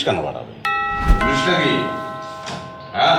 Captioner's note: door bell